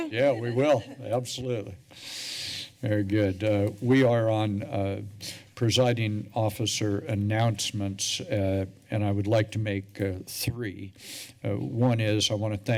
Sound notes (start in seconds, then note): 1.8 breaths deeply